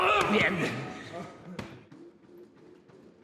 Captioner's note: gruñe